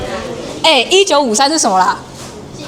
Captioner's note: audience chattering